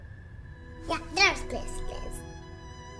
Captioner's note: babbles